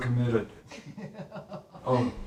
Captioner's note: laughing